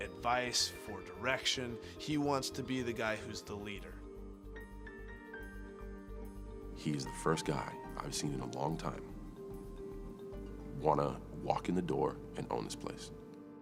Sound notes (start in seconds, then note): none